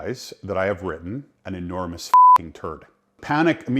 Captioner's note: beep